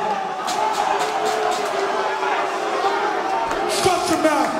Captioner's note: crowd booing